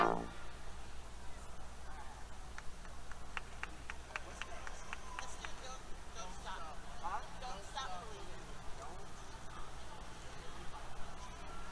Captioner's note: background Conversation